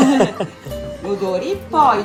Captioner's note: laugh